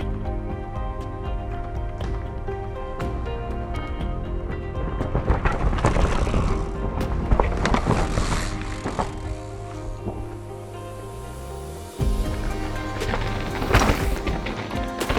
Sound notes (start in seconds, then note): 4.8 wheel hub clicks whizz past; 12.0 bike rumbles and whizzes past